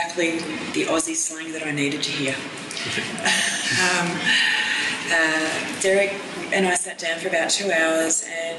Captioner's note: laughs